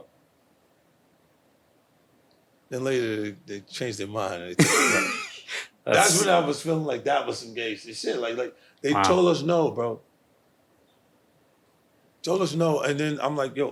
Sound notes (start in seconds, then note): 9.0 laughing